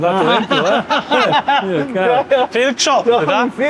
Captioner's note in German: lachen